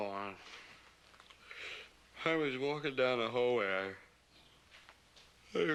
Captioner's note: yawning